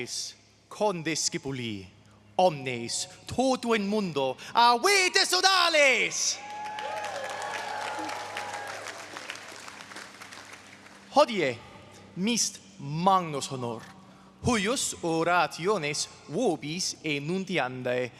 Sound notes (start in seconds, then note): 6.2 audience cheering; 11.2 speaks in foreign language